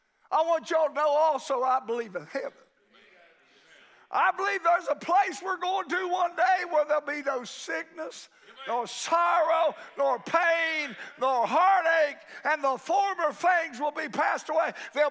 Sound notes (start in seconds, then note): 2.9 congregation shouts agreement